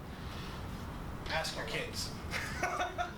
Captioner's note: laughs